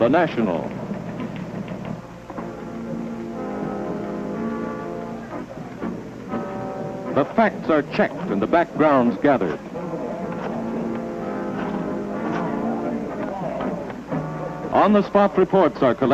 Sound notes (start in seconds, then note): 7.0 clicking and clacking of typewriters; 14.1 rotary phones being dialled